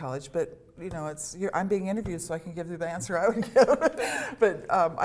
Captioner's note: laughter